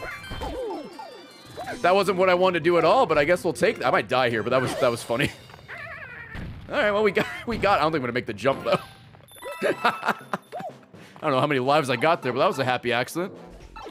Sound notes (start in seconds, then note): 9.5 laughs